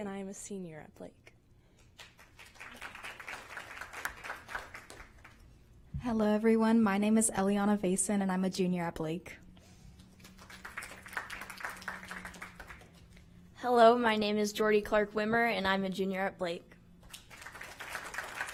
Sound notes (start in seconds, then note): 0.0 applause; 8.0 applause